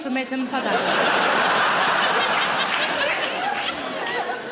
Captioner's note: audience laughing